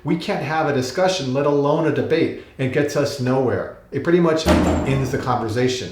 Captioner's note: metal crunch